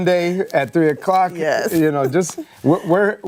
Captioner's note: laughter